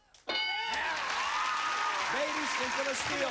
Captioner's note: cheers and applause